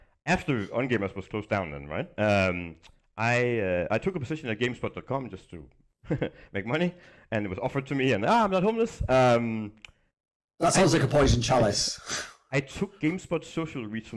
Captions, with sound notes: After onGamers was closed down then right, I took a position at Gamespot.com, just to make money, and it was offered to me, and ah, I'm not homeless. - That sounds like a poisoned chalice (chuckles). - I took GameSpot social reach